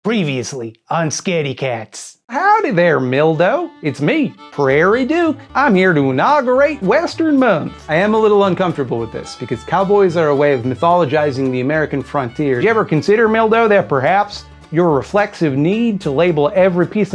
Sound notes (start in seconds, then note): 2.0 cowboy voice